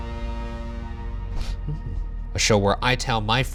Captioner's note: gasping